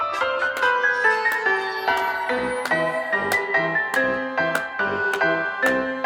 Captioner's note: Morty clapping; creepy circus music